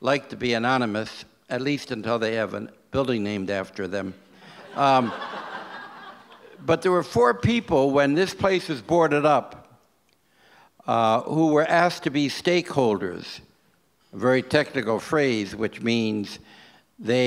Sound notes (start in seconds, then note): 4.5 audience laughs